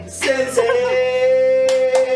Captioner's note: speaking in foreign language